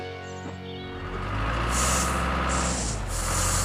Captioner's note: engine Running